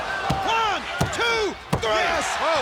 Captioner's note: body thudding; hand thudding